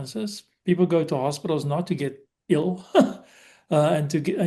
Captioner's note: laughs